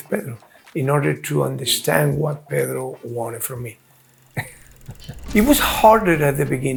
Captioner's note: chuckles